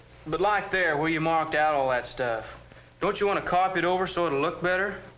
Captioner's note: none